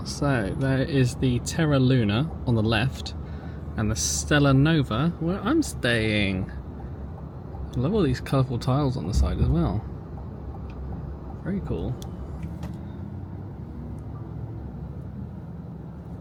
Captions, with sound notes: So there is the Terra Luna on the left and the Stella Nova where I'm staying. I love all these colourful tiles on the side as well. Very cool. (engine humming)